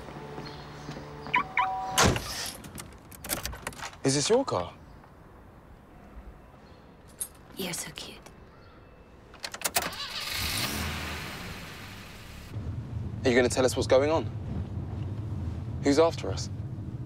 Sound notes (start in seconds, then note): 1.3 car locking system beeps; 9.6 starts engine